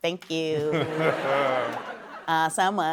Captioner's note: chuckling